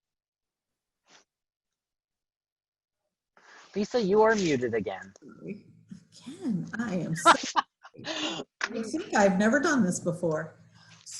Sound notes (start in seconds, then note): 7.2 laughs